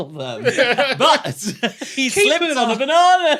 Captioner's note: laughs